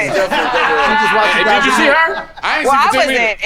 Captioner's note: all laugh